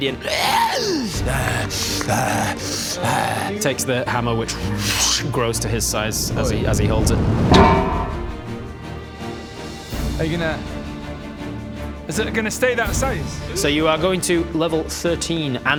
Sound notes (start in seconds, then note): 1.2 uggh urgggh; 7.3 clang!